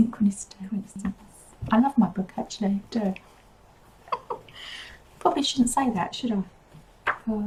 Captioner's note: laughs